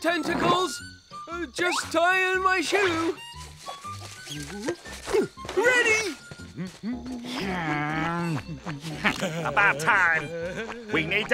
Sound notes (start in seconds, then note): 8.2 sighs